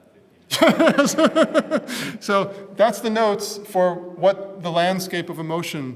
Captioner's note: laugh